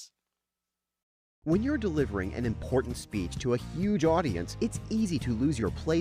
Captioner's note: voiceover